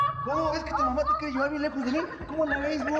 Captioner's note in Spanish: Gritos y exclamaciones